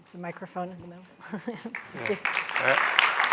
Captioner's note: applause